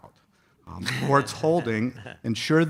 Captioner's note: audience chuckles